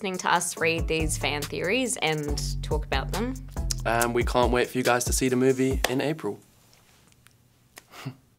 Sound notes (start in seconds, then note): 7.3 chuckles